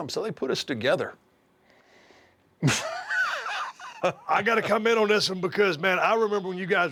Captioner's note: laugh